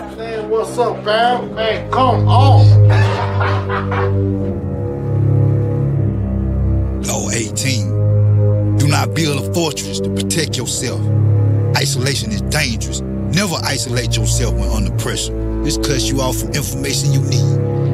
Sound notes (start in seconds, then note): 1.8 laughing; 4.6 sinister music